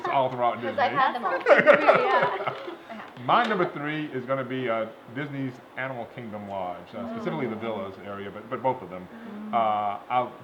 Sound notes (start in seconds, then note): 0.6 laughter